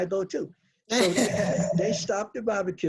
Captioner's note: laughs